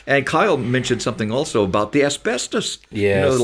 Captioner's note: none